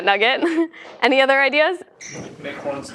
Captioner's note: laugh